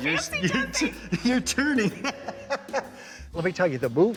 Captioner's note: laughing